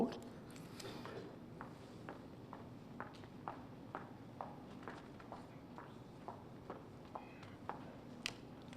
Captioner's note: footsteps